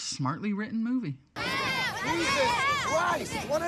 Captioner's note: overlapping teens shouting